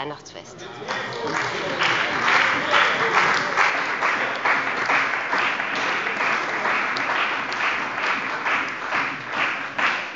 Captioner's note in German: Beifall bei dem BÜNDNIS 90/DIE GRÜNEN und der CDU